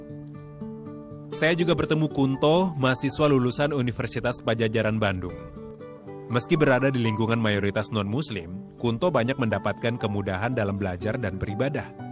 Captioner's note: non-english speech